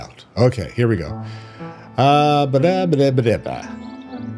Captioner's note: humming